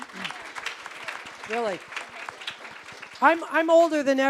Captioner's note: applause